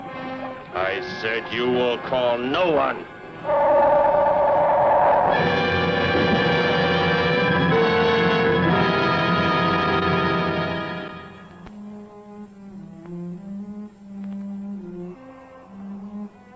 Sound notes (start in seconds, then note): 3.5 gun humming; 6.4 dramatic chords